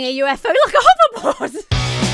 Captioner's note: laughs; punk rock music